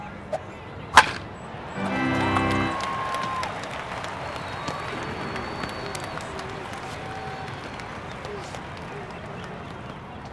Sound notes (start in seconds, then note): 0.9 bat cracks; 1.9 audience cheers